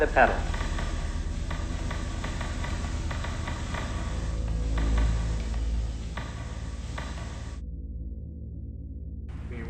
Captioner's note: repeated clicking of lever